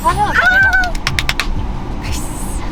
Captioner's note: seal clap